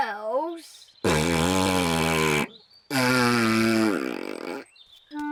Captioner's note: blows raspberry